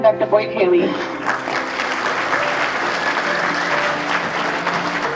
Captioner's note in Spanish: Aplausos